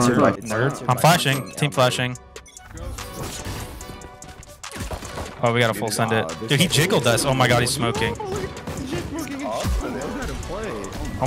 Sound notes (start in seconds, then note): 2.8 guns firing